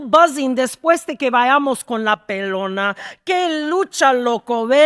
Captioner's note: speaking in Spanish